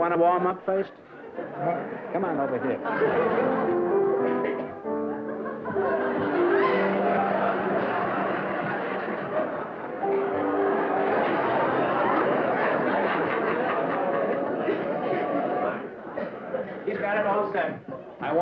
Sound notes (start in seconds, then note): 2.9 piano playing; 6.3 laughter